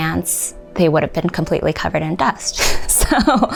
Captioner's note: chuckles